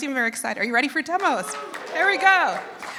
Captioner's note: applause